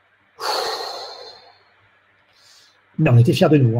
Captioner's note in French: soupir de soulagement